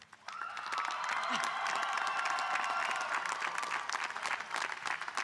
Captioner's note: audience cheering and applauding